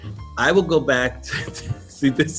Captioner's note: chuckles